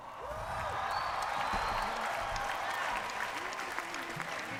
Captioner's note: cheering